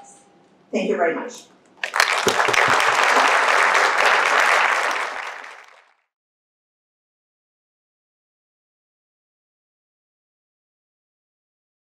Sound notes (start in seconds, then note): 1.8 applause